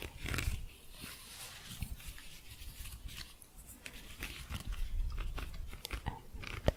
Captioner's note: shuffling and scratching